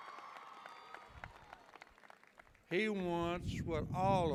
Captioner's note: cheers and applause